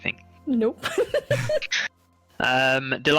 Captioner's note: giggles